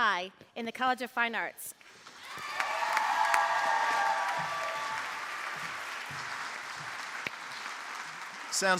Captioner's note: applause